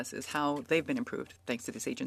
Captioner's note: speaking French